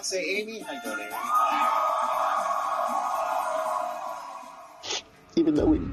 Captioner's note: cheers and applause